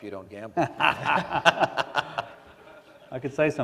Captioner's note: laughter